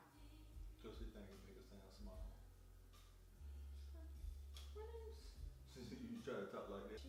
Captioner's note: imitates high pitched voice